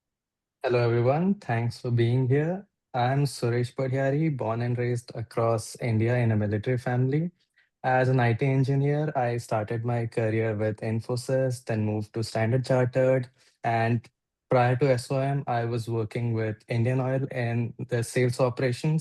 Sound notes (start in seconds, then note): none